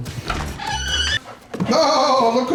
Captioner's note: door squeaks; dog pants